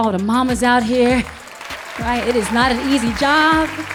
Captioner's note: audience applauding